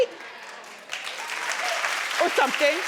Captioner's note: audience applauding